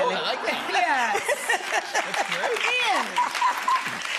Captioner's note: laughter